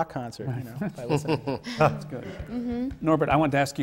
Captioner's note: laughter from the panel